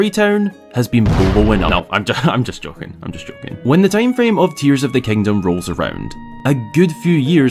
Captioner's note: bang